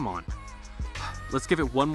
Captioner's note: sighs